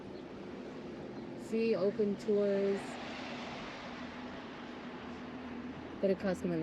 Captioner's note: truck engine roaring